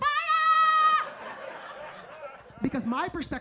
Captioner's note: audience laughs